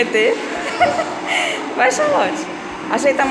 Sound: laughs

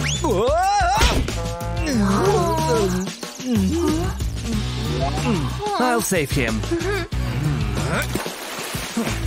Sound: moaning

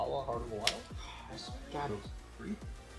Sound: sighs

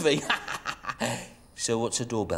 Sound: laughs

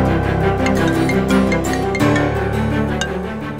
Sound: phone ringing

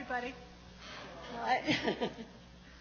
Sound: laughs

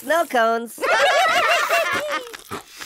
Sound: laughing

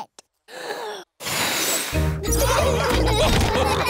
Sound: blows; laughter

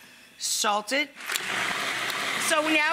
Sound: food processor buzzing

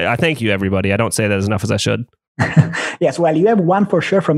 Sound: laughs

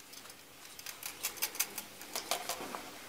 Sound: quiet rustling

